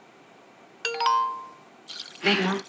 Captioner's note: Cell phone beeps